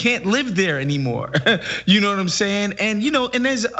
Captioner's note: laugh